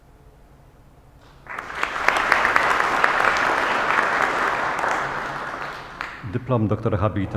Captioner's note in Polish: oklaski